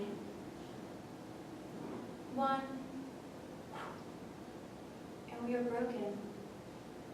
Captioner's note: whew